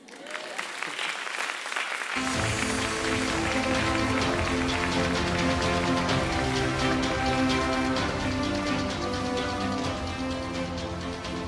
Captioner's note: applause, Music